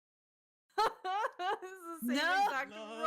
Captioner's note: laughing